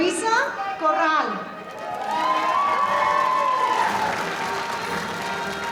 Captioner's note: audience cheering